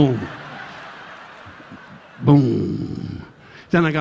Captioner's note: audience laughing